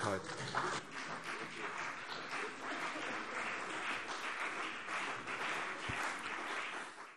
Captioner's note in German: Beifall CDU und BÜNDNIS 90/DIE GRÜNEN